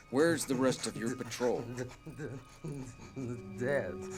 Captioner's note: shuddering